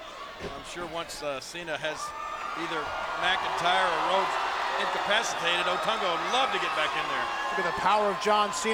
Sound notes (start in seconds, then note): 5.0 crowd cheering